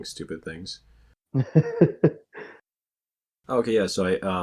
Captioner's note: laughs